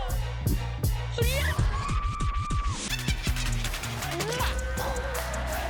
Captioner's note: screams; imitates explosion